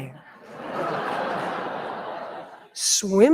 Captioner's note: audience laughing